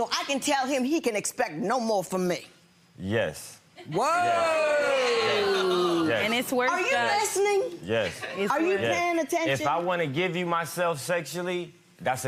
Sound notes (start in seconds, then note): 3.9 audience jeers